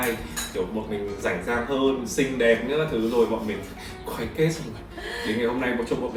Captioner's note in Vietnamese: tiếng cười